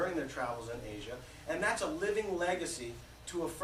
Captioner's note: none